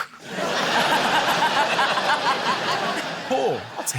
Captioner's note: laughter